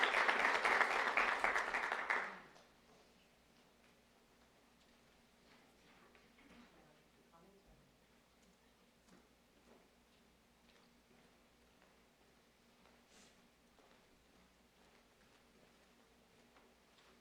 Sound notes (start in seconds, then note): 2.7 applause